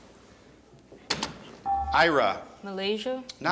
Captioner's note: buzzer chimes